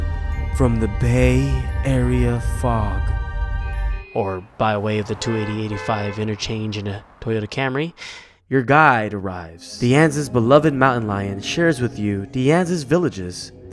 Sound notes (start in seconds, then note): 4.7 car horn